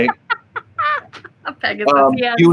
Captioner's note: laughs